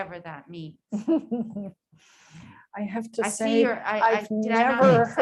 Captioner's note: laughs